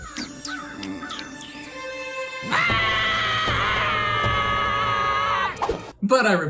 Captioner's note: NOAH and CODY scream